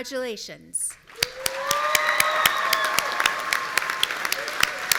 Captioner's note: audience cheering